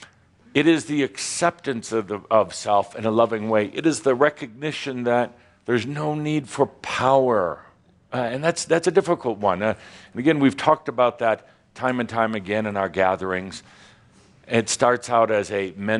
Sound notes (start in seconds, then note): none